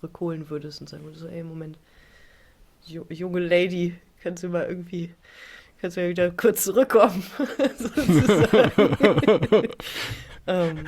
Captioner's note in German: gelächter